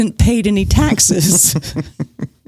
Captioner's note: laughs; guffaw